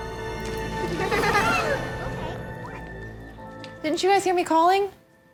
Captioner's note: dramatic music; children laughing